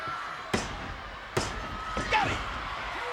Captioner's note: hand tapping